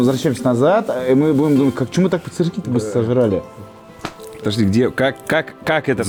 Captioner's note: sarcasm